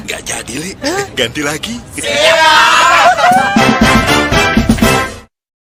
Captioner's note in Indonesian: berteriak